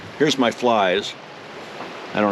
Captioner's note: water flowing